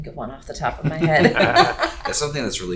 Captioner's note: laughing